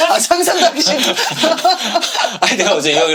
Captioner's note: laughing